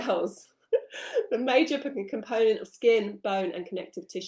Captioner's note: laughs